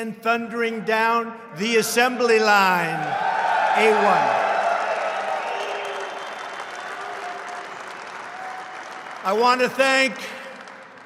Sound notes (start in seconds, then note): 2.6 applause